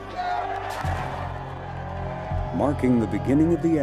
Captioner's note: people shouting